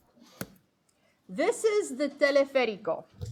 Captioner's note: speaking foreign language